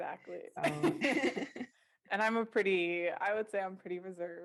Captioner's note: laughter